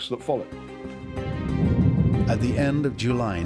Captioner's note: explosion